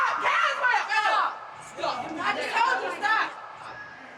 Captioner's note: yelling